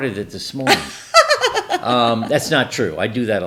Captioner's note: laughing